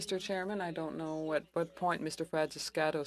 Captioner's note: speaking French